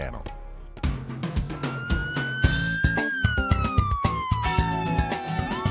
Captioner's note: a siren wails